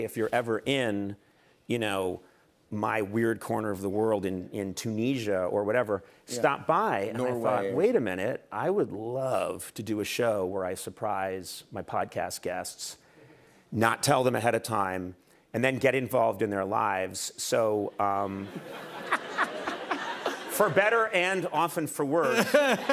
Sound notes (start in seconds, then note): 18.3 laughter